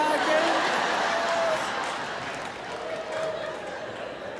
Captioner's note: audience laughs